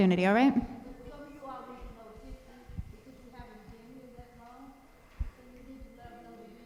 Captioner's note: audience speaking indistinctly